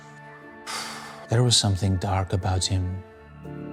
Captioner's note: exhales